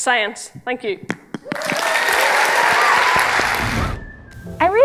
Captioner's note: applause